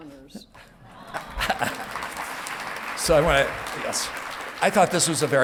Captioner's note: audience clapping